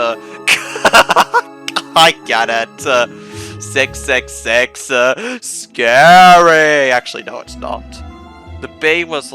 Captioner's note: fake laughing